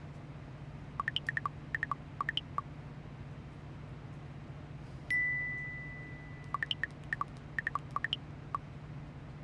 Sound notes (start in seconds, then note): 1.0 text chirping; 5.1 notification dings; 6.4 text chirping